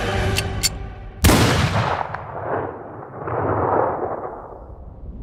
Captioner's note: gunshot echoes